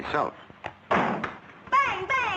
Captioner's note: door thudding